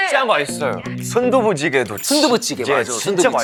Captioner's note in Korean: 츄릅